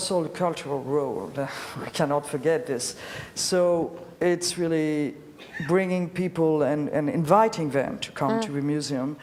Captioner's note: laughs